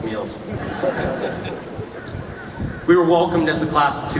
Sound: laughter

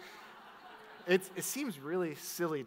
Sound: audience laughs

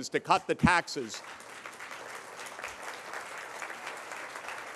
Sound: applause

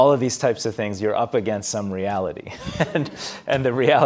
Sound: laughs

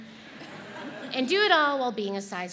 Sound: audience laughs

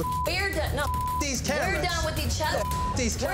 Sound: beep

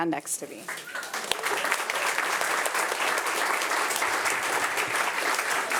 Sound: audience applauding

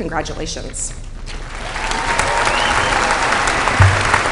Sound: applause

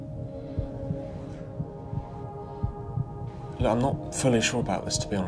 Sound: heart beating

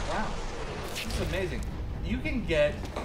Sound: whoosh followed by splatter

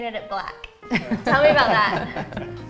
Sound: laughter

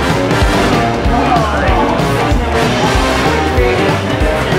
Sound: indistinct chatter

